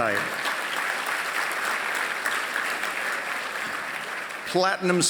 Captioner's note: applause